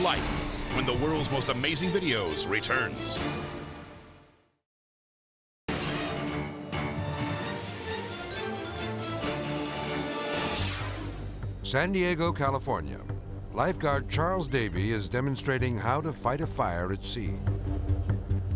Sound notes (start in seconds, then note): 5.7 dramatic music; 9.8 video swooshing